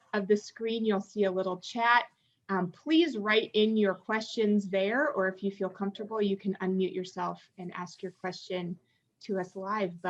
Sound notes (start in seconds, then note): none